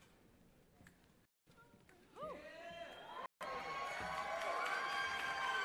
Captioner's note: cheers and applause